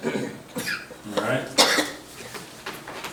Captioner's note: committee member coughing